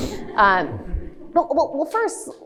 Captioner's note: audience chuckles